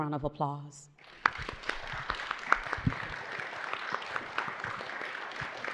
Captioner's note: audience applauding